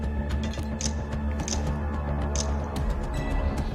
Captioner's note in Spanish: Clics